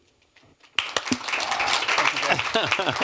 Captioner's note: applause